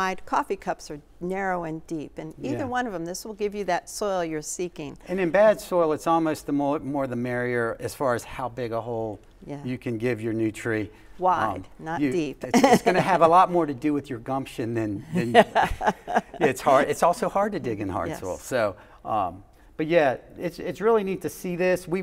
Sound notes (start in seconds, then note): 12.1 laughs; 15.1 laughs